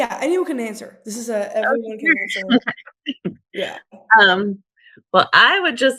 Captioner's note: laughs